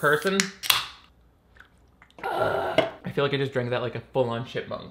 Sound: slurping

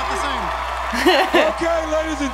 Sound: laughs

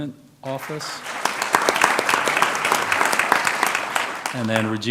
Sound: applause

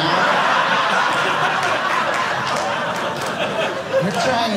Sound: audience laughing

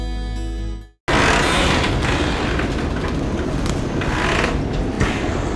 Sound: stormy sounds

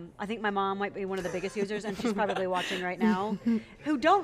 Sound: laughs

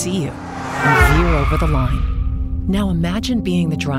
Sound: tires screeching

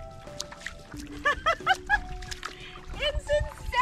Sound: laughter

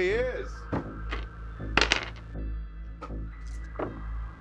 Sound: dice clatter

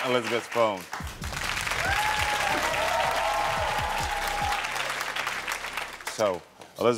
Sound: dramatic music; crowd cheering

